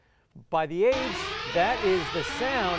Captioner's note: timer